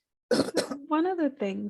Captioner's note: coughs